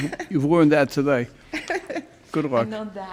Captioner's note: laughs